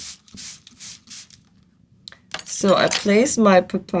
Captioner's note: pause